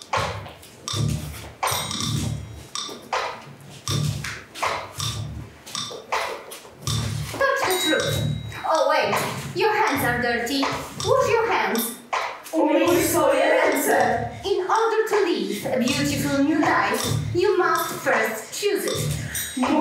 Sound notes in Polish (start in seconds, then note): 7.5 Po angielsku; 12.8 Po polsku; 14.8 Po angielsku